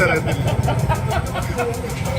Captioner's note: laughter